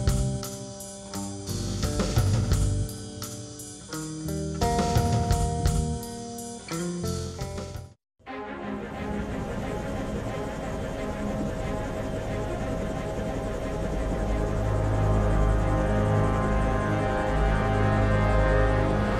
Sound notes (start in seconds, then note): 4.0 upbeat rock music; 12.6 rotors whirring; 17.5 suspenseful music